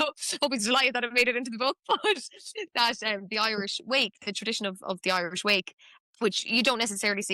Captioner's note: laughs